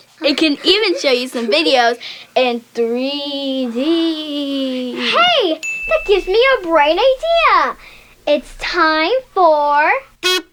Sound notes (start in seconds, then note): 5.6 bell dings; 10.1 kazoo playing